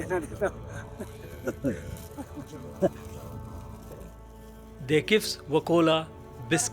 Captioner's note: laughs